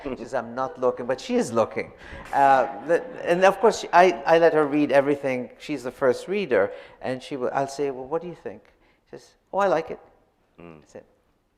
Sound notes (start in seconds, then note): none